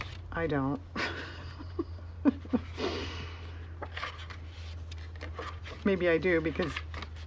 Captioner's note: laughs